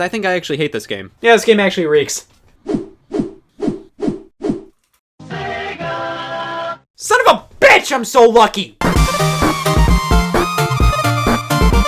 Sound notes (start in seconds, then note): 3.0 swooshing sounds; 8.8 upbeat music